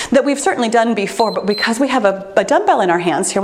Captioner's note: timer beeps